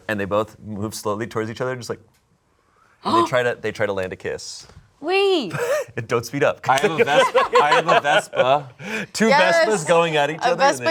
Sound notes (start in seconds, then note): 2.6 gasps